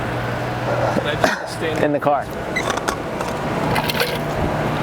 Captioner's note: laughs